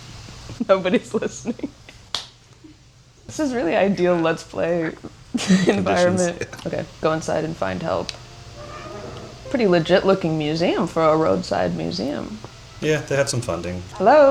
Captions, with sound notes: [laughing] Nobody's listening. This is really ideal let's play environment. - Conditions. - Okay, go inside and find help. [door squeaks] Pretty legit looking museum for a roadside museum. - Yeah, they had some funding.